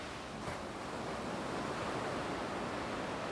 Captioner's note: sound of waves